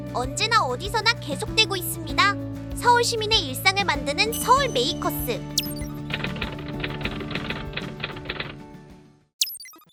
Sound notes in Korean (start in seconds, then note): 5.6 타이핑 소리